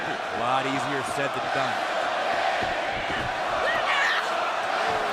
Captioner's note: crowd cheering